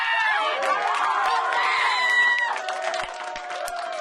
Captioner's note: applauding